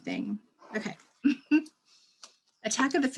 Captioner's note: laughter